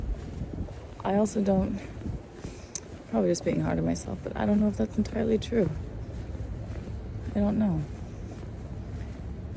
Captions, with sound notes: I also, don't... *clicks tongue* I'm probably just being hard on myself, but I don't know if that's entirely true. I don't know.